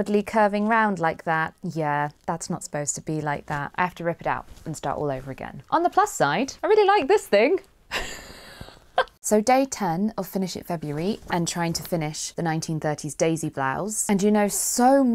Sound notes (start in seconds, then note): 7.9 giggles